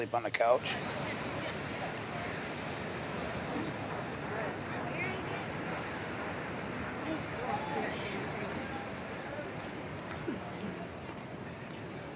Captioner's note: sound of Ocean Waves